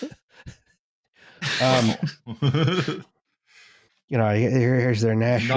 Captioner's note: laughter